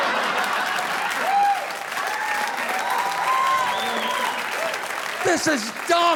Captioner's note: audience laughing; audience applauding